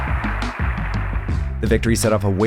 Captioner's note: people cheering